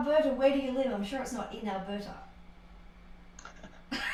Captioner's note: laughter